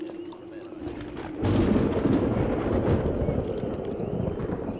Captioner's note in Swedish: åska